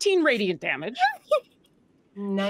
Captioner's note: Deborah laughs